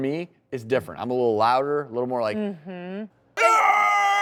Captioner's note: screaming